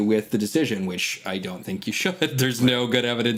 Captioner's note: chuckles